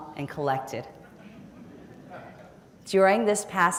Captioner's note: audience laughing